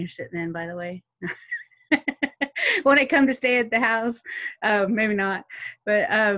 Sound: laughs

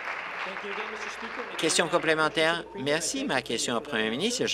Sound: applause

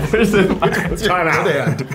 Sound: everyone Laughing

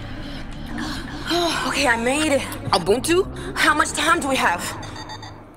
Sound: breath

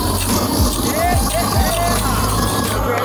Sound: crowd

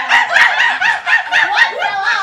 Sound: monkey noises

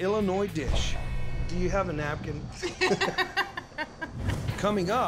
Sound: laughter

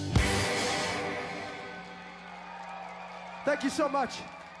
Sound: cheers, whistles, & applause

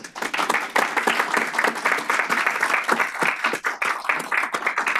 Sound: applause

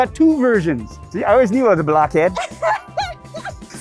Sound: laughs

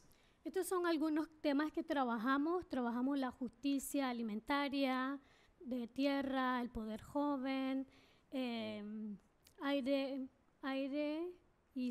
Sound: speaking spanish

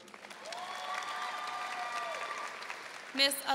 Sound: audience cheering and applauding

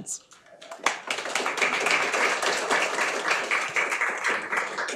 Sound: audience clapping

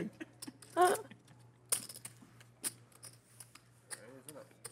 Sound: chips clicking

